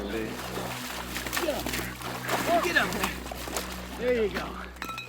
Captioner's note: splashing